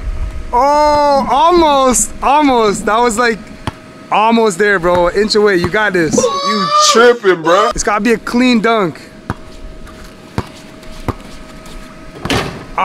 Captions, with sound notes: Oh, almost, almost. That was like, almost there, bro. Inch away, you got this. (person screaming) - You tripping, bro. - It's gotta be a clean dunk. (basketball thuds)